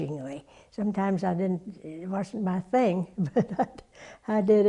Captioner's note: laugh